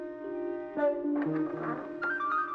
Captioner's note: door creaking